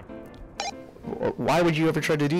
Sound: radio beeps

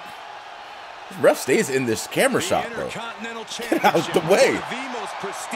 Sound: laugh

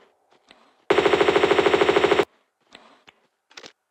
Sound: bratatatatata

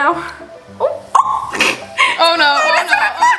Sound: shrieks

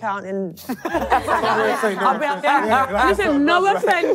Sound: contestants laughing

